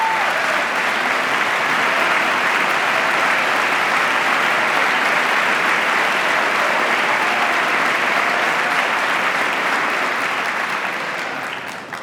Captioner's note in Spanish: aplauso